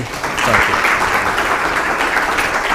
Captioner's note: applause